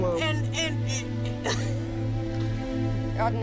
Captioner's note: crying